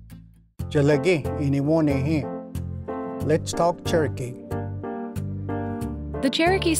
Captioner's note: language segment music begins; speaks in Cherokee